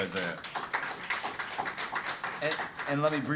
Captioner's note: audience applauding